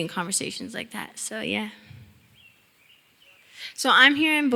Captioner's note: birds chirping